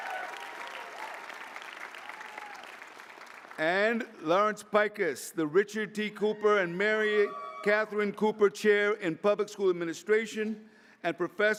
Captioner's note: applause